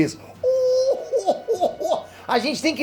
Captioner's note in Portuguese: Risada do Freeza